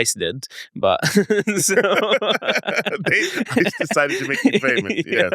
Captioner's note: laughs